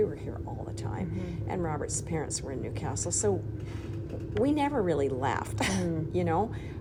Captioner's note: chuckles